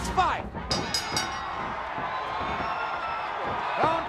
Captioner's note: blows thudding; bell ringing